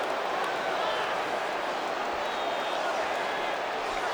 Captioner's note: crowd clamoring